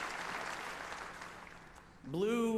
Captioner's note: applause